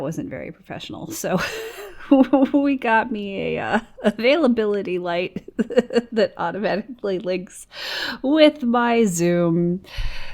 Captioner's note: laughs